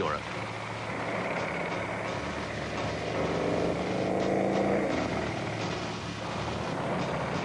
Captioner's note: tense dramatic music; vehicle engine revving